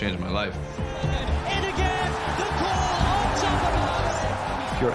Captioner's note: crowd continues cheering